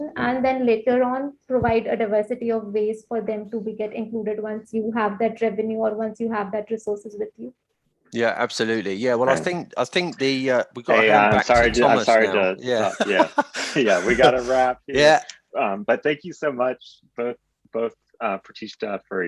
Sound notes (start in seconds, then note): 12.6 laughter